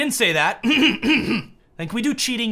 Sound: over exaggerating clearing his throat

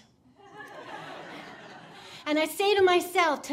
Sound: audience laughing

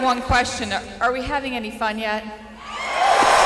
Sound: cheering

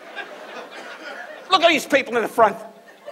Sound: audience laughs

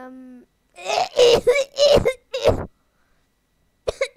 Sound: insert the rest of the coughing here

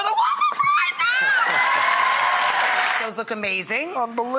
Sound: applauding

